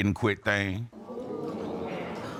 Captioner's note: audience exclaiming